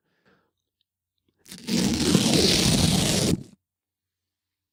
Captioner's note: ripping